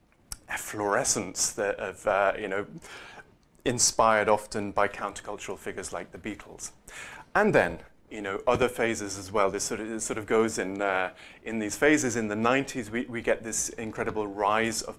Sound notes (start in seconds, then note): none